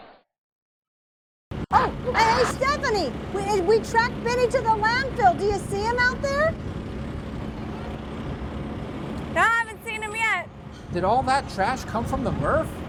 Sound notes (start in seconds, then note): 6.8 tractor sounds